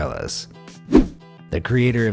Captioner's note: air whooshing